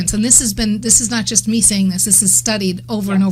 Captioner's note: none